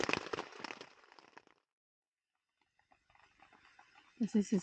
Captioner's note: light rain